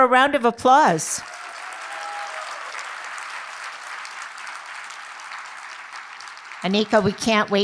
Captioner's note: applause